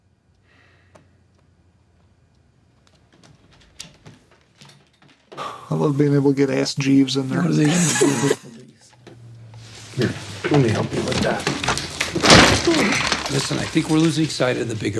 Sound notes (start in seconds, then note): 7.6 laughter